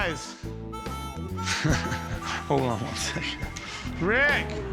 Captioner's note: laughs